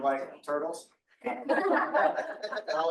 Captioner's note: audience laughing